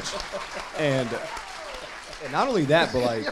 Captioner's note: crowd applauds; laughs